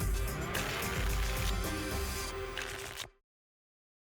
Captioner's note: tickets shuffling